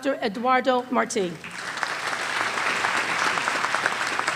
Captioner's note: applause